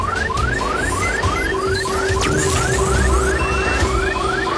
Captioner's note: electronic beeping